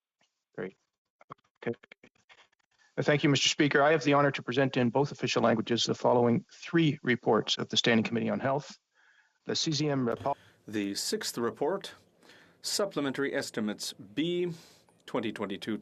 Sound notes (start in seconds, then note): 13.2 speaking French